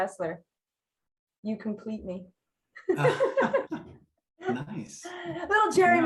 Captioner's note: laughing